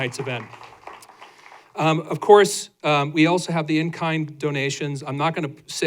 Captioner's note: applause